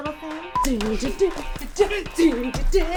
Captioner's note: beep; girls humming